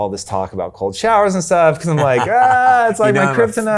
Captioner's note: chuckles